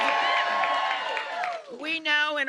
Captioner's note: cheers and applause